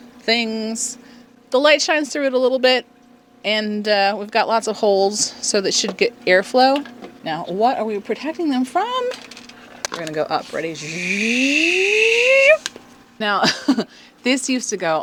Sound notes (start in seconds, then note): 10.5 space noise